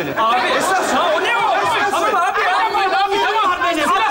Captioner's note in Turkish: aynı anda bağrışmalar